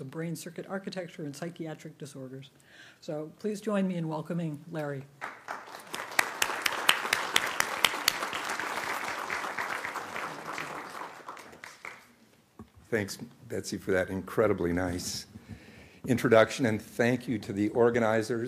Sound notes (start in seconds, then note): 8.6 applause